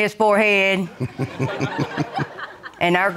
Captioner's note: audience giggling